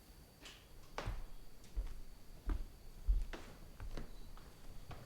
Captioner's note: footsteps approaching